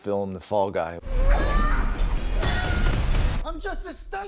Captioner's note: actress grunting